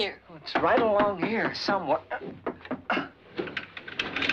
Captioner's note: pounding